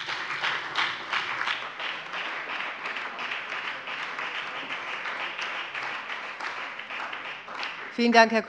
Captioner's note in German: Beifall bei der FDP und bei Abgeordneten der SPD und der LINKEN